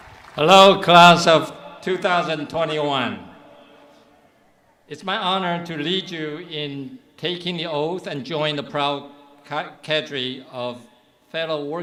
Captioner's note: cheering and applause